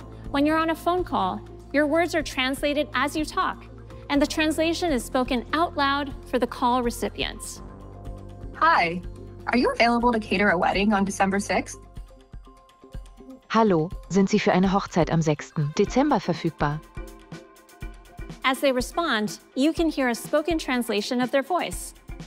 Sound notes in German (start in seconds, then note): 12.2 spricht auf deutsch